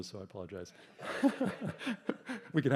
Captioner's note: laughter